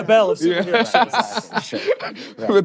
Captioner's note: laughter